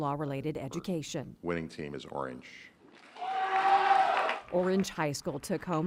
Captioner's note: cheers